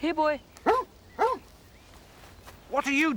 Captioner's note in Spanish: perro ladrando